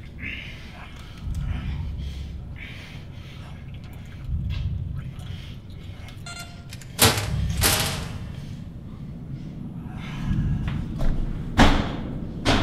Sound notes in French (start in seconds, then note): 6.2 La porte fait bip et s'ouvre